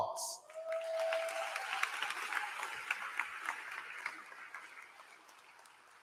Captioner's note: applause